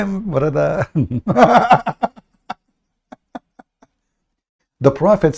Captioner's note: Ketawa